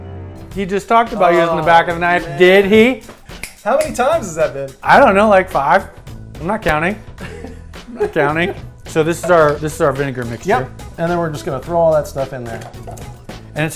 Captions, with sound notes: - He just talked about using the back of the knife, did he? (clicks) - How many times has that been? - I don't know, like, five? I'm not counting, I'm not counting. So this is our vinegar mixture? - Yep, and then we're just gonna